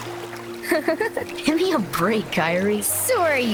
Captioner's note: Kairi laughs